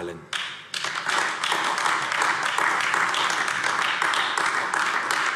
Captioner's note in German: Beifall AfD